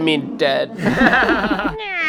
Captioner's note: laughter